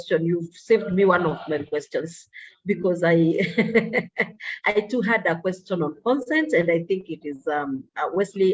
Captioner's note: laughs